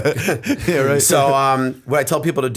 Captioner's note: laughter